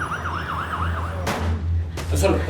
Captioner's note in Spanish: Sirenas; Disparo